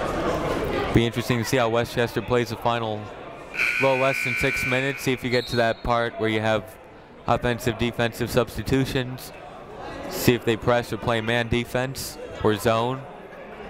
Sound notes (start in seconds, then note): 3.5 buzzer ringing; 13.5 people talking in the crowd